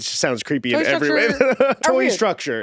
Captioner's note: Eddy laughing